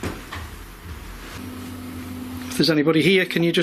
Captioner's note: thumping